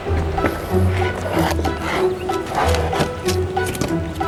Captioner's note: shuffling